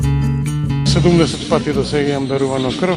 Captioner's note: speaking non-english